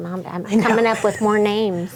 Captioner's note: chuckles